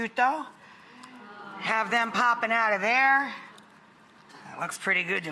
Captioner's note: audience aahs in excitement